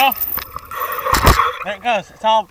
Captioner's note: chain bangs